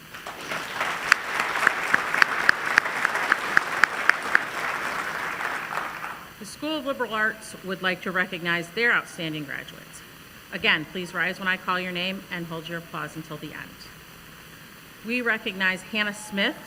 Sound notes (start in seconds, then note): 5.2 applause